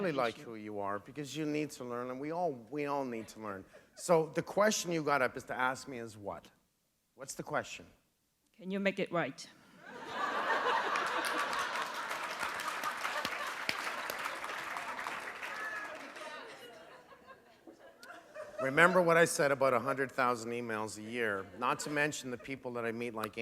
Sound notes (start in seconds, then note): 11.6 laughter; 14.0 applause